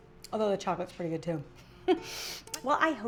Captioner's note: chuckles